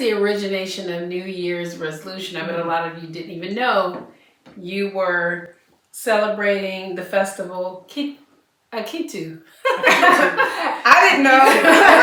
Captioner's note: laughter